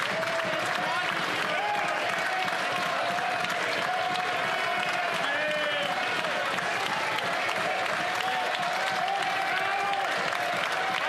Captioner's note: some Applause